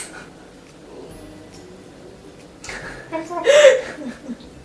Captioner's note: laughs